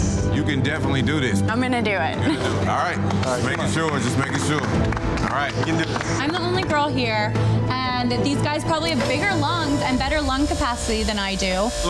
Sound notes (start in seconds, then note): 2.8 hands clapping; 5.9 contestants clapping